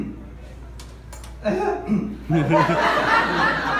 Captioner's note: voice crack